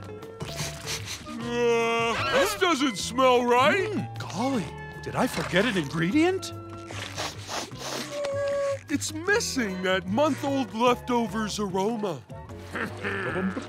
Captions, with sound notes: [sniffing] Uh, this doesn't smell right. Golly. Did I forget an ingredient? [sniffing] It's missing that month old leftovers aroma. [chuckles]